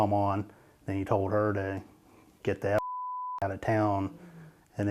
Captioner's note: beeping